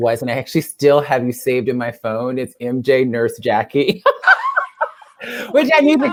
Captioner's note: laugh